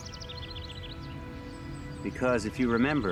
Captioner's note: birds chirping